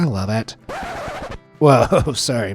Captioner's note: record scratching